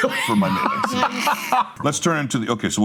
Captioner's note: group laughing